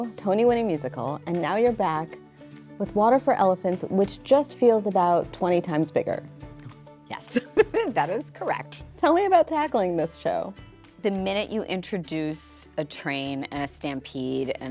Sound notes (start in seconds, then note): 7.3 laughs